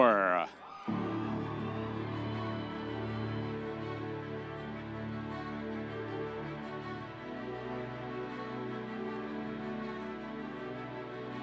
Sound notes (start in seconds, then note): 0.8 audience cheering; 3.0 soft music